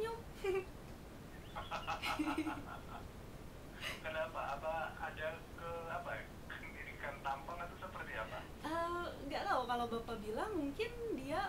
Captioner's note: laughing; both laughing